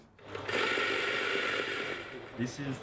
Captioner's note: machine whirring